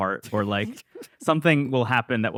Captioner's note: laughs